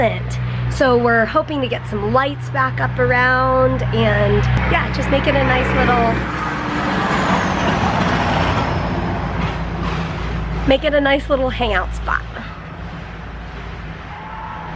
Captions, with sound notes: So we're hoping to get some lights back up around and yeah, just make it a nice little .... (car noises) make it a nice little hangout spot!